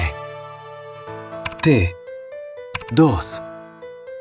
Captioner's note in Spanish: tecleo